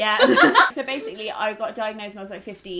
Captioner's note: laughs